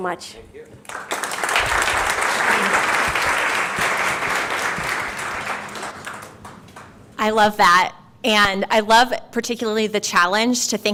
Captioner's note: applause